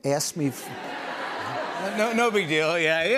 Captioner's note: laughter